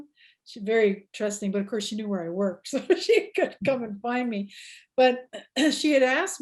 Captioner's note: laughs